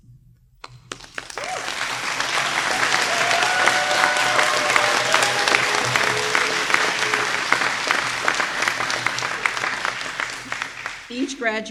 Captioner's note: applause